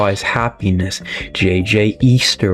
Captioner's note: inhales Oxygen